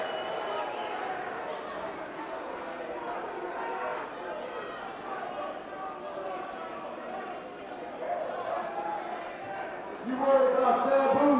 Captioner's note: crowd chatter